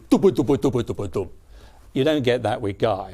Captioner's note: mimics drum